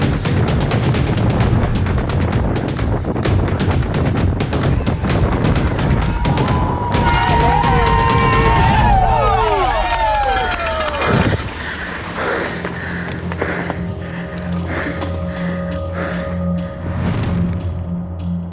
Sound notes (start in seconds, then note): 0.1 air whooshing; 0.1 upbeat music; 5.4 spectators cheering; 6.7 upbeat music; 11.4 breathing heavily